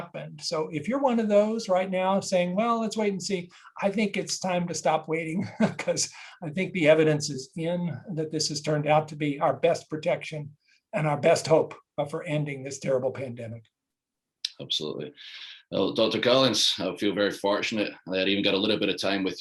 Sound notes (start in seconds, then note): 5.4 laugh